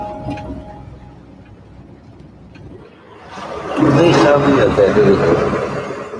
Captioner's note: speaking foreign language